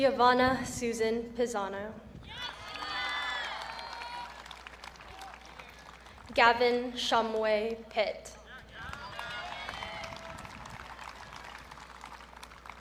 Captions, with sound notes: Giovanna Susan Pisano. (audience cheering) Gavin Shumway Pitt. (audience cheering)